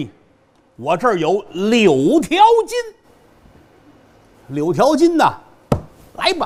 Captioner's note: smack smack smack